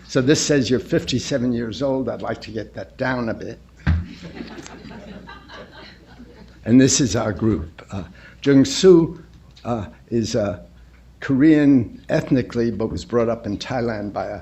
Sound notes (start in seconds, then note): 4.1 laughter